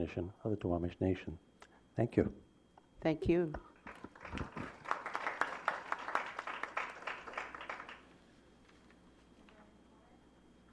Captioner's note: applause